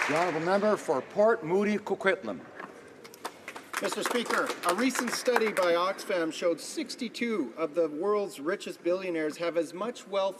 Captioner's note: applause